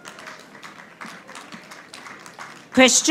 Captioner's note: audience applauding